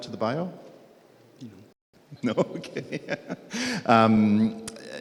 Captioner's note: laughs